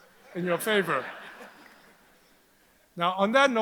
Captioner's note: audience laughs